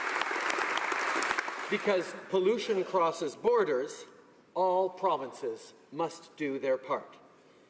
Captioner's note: applause